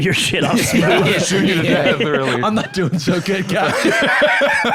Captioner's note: laughing